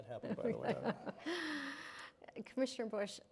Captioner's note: chuckling